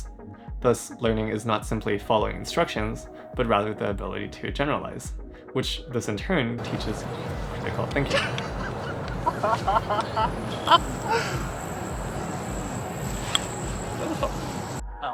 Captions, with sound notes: Thus, learning is not simply following instructions, but rather the ability to generalize, which this in turn teaches pretty critical thinking. (laughing) (upbeat music)